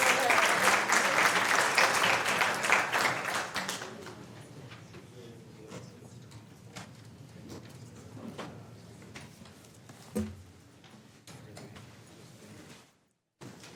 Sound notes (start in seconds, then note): 7.2 applause